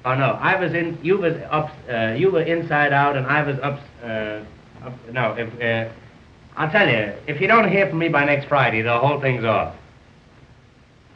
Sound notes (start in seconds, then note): 4.9 stuttering